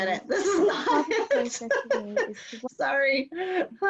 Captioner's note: laughter